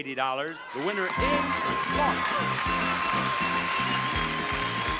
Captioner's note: bell ringing